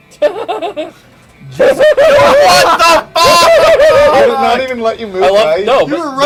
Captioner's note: laughs; nervously laughs; hoots and hollers like an owl